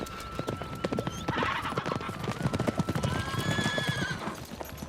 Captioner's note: chickens clucking and horses neighing